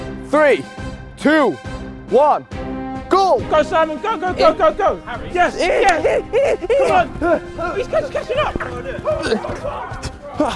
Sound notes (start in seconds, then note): 4.4 men groaning